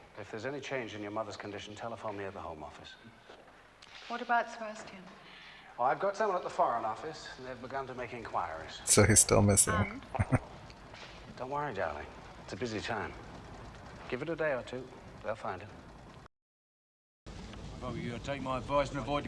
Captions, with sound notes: So he's still missing. [Chuckling]